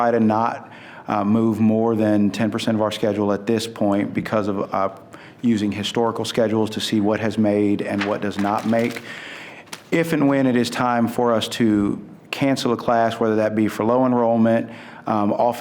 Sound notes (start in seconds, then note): none